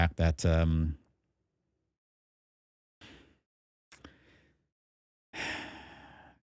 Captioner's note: sighs